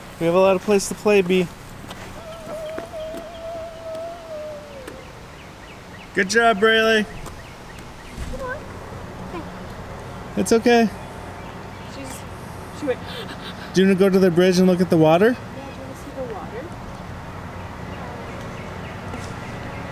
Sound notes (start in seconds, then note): 2.1 humming